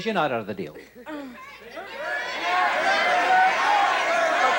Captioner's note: audience shouting